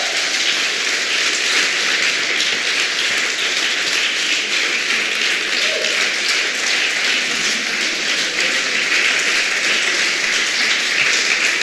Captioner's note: applause; carrot screaming